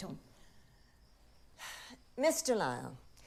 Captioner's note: sighs